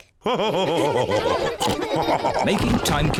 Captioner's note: all laugh